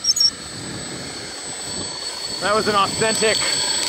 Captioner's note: roaring bulldozer engine